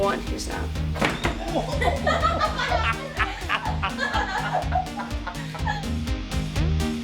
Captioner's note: tumble and laughter